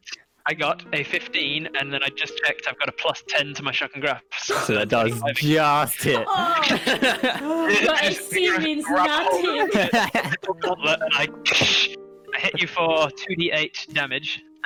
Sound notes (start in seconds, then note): 5.7 laughs; 11.5 tshhkkkkt